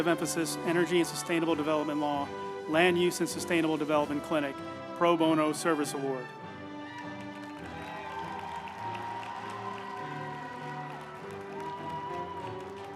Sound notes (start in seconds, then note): 6.6 group applauding; 7.0 uplifting music